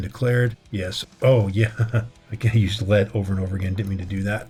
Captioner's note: laughter